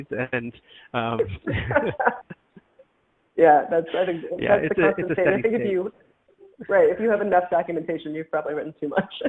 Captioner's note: laughing